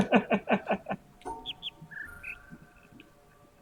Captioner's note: chuckles; bird chirps high-high-low-mid